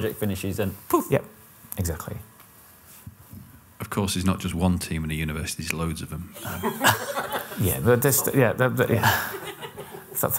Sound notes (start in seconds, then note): 6.4 laughter